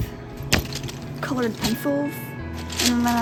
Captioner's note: whack